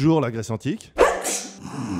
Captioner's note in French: atchoum